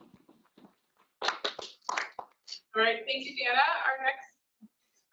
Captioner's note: applause